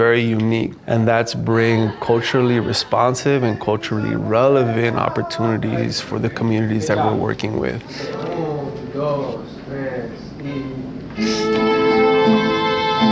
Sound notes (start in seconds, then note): 8.3 spanish